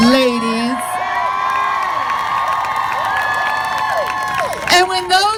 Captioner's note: crowd claps and cheers